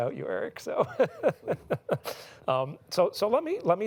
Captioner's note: laughs